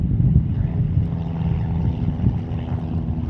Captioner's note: airplane engine